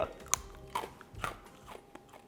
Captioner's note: teeth crunching